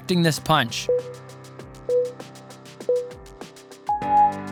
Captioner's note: timer beeping